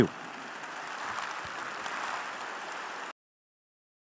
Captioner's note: audience applauding